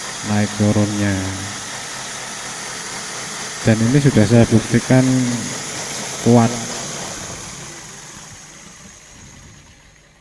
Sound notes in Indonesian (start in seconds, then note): 0.0 suara mesin; 6.6 suara mesin berhenti